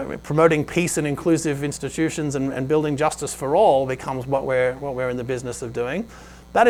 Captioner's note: none